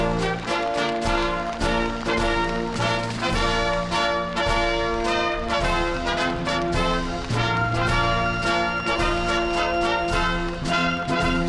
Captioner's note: applause